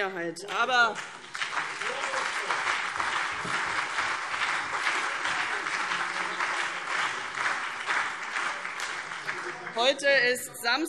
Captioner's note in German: Beifall CDU und BÜNDNIS 90/DIE GRÜNEN